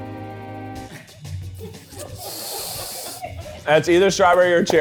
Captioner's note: crew laughing; inhales